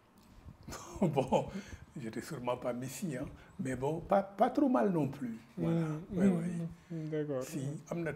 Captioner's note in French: Rires